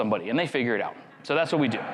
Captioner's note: crowd laughs